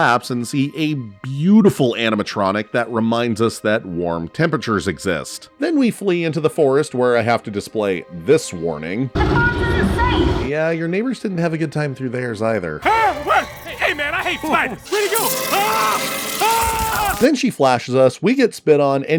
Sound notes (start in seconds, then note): 12.8 screaming; 14.9 screaming